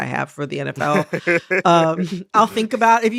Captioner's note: laughter